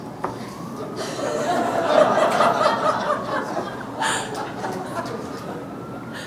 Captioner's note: audience laughter